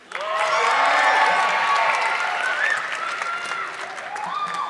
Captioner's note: audience clapping